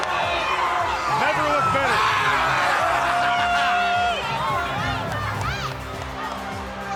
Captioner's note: wrestlers screaming